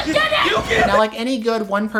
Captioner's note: Viola/Sebastian and Duke scream repeatedly